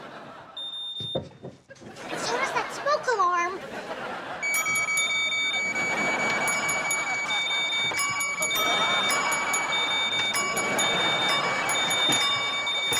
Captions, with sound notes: [beeping] And so does that smoke alarm. [beeping, dinging] [beeping, dinging]